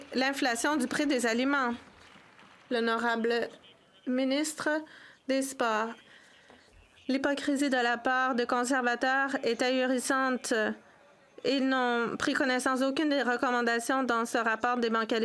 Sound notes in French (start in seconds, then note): 9.9 voix de l'interprète